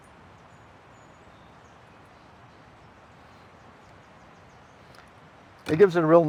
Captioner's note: wind rustling